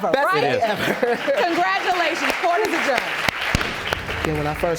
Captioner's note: chuckling